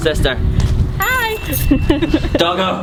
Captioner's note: laughing